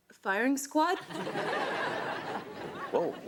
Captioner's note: audience laughs